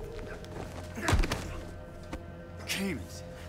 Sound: thudding

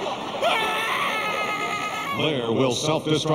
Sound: screaming

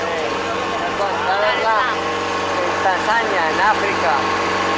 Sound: outboard motor roaring

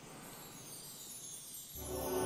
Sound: mystical chiming

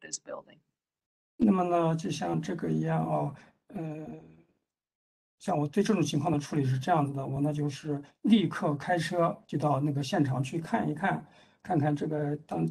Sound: speaks in Mandarin

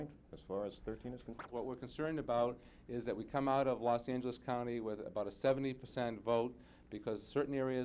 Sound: man talking

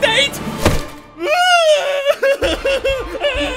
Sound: Napoleon cries

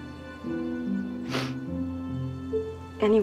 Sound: sobbing

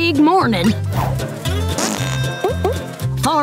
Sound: farting

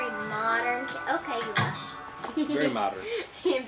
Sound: chuckles

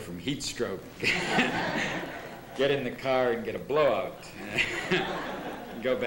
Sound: laughter

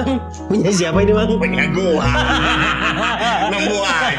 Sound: laughs

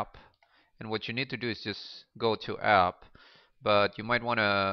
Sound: click on

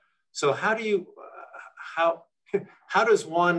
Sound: chuckles

